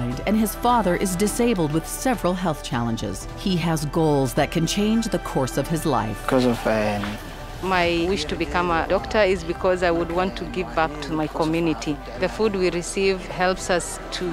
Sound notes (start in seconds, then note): 6.2 speaking in foreign language